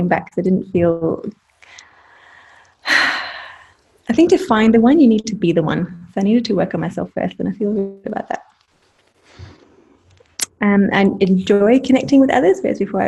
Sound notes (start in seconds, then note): 2.8 sighing